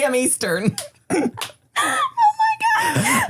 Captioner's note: everybody laughs